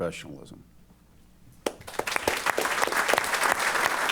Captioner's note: applause